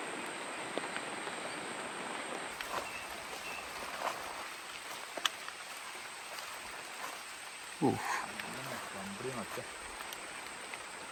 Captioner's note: animal sounds